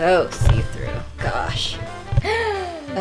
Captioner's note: obnoxious dragging sounds; dramatic gasp